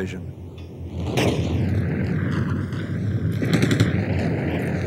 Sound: guns firing

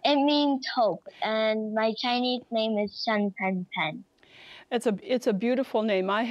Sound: speaks Chinese

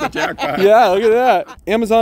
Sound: woman laughing

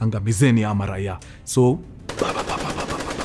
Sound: gunshots

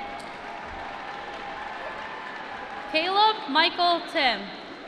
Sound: applause

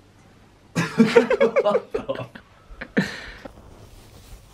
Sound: laughing

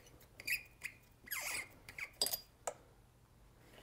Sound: screws squeaking

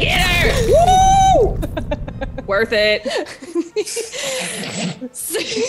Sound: laugh

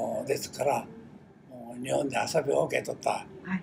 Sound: foreign language

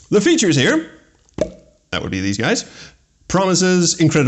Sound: plop

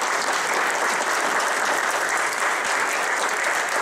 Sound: applause

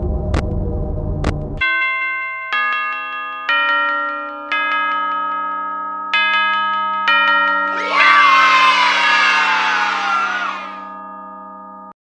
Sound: bells

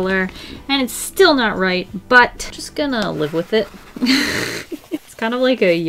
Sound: laughs

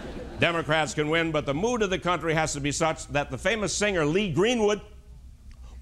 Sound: laughter

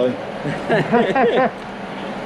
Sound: chuckle

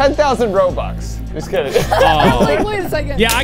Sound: laughing

